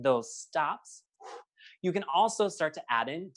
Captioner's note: breathes deeply